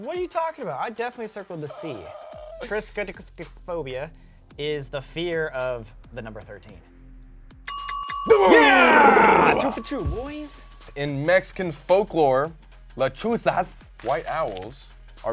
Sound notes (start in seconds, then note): 7.6 bell dings